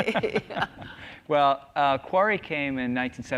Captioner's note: laughs